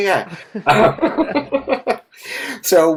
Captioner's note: everyone laughs